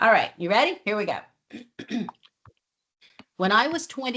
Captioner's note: clears throat